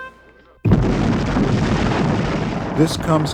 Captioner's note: bomb explosions